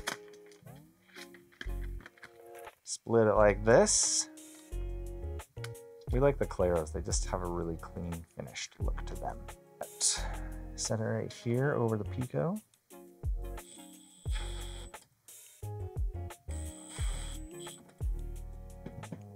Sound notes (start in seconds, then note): 13.6 drill whirring; 16.7 gentle music